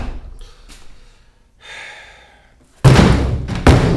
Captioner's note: Manny SIGHS